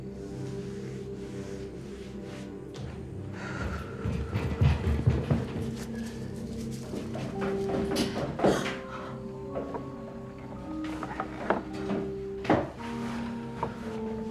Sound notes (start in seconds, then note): 2.6 footsteps retreating; 3.2 Claire sighs; 5.6 ties rustling; 6.8 footsteps approaching; 8.4 Lucy gasps; 9.2 footsteps approaching; 9.2 tense music